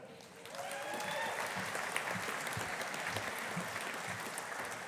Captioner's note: audience applauding